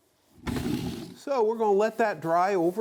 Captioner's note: wood thuds